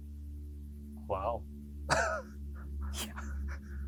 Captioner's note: laughs